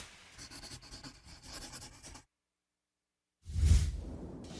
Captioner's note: pencil writing